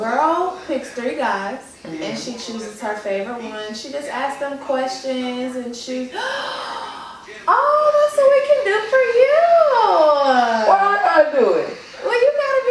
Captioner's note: gasping